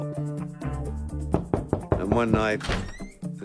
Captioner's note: knocking at door